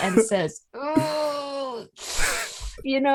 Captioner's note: wincing, painful noises, and laughter